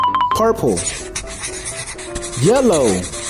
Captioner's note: squeaky shuffling